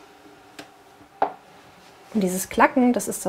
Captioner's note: quiet clicking